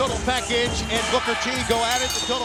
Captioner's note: bell rings